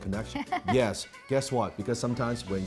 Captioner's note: laughing